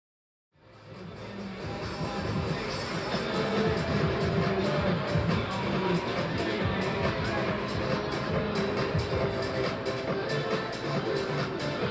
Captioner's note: crowd and music ambience